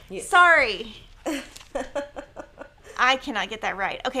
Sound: laughing

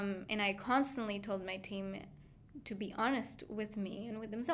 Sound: none

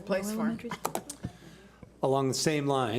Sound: speaking faintly

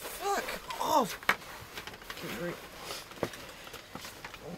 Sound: rope creaking; slurred

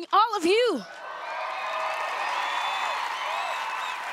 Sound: cheering

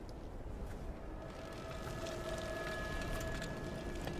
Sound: whirring

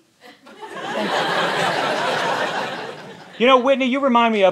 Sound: laughter

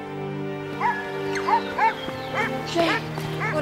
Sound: barking

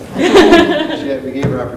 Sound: laughing

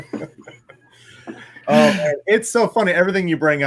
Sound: all chuckle

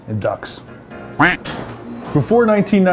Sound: quack

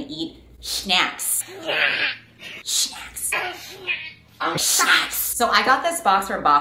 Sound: whispering

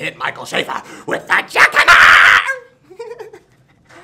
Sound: chuckles

